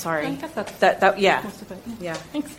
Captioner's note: female audience member murmuring